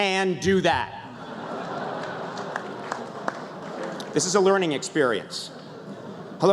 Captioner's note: laughter